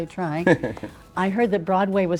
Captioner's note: laughing